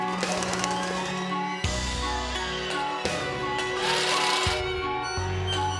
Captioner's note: birds wings flapping; shredder buzzing